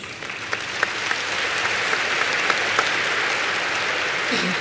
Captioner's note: applause